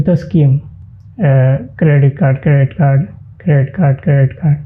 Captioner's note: imitating a bank sales person